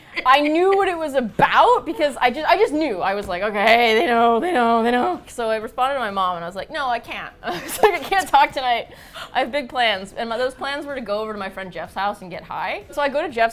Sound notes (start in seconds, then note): 0.0 both laugh; 7.4 laughs